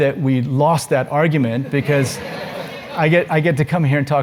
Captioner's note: laugh; laugh